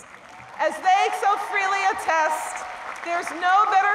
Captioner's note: applause